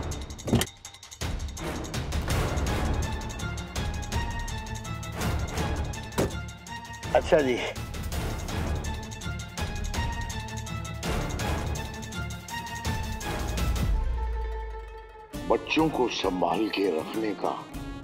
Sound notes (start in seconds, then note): 6.1 car door closes